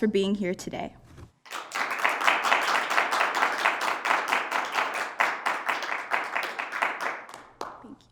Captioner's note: applause